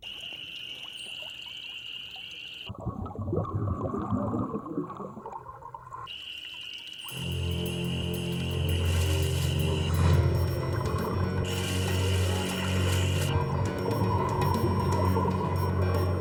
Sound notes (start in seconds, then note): 0.0 crickets chirping; 2.7 underwater swimming sounds; 7.4 spooky music; 9.1 water splashing